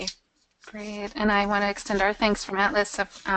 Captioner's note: voiceover